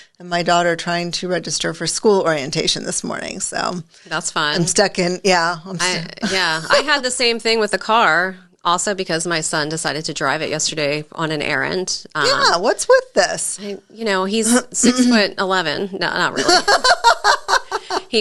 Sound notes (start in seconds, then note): 5.8 laughs; 16.3 laughs